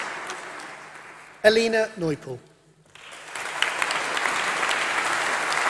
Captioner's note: applause